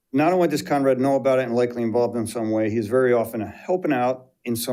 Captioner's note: none